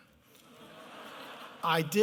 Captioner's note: laughter